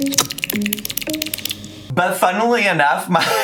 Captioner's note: imitates cat drinking water